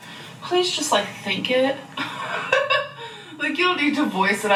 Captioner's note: laughs